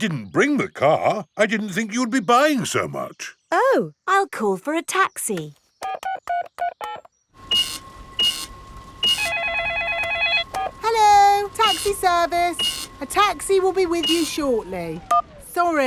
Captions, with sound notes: I didn't bring the car. I didn't think you would be buying so much! Oh, I'll call for a taxi. (DIALING) (CASH REGISTER BEEPING) -(CELLPHONE RINGING) -(BEEPS) Hello, Taxi Service. A taxi will be with you shortly.